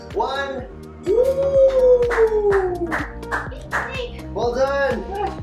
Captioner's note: hoots and claps